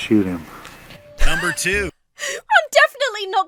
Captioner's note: wheezes